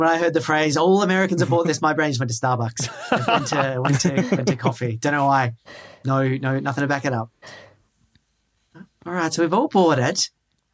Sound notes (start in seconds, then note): 2.8 laugh